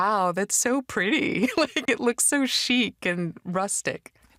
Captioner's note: laughs